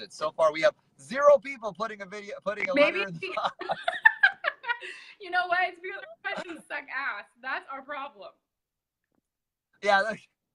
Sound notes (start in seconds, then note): 2.6 laughter